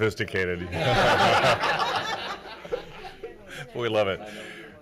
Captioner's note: everyone laughing